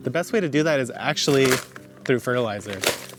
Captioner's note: bag rustles